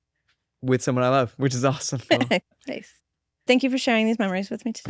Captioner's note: laughs